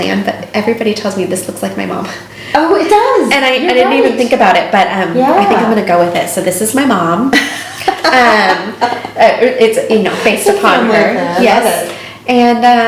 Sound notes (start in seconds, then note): 7.3 laughing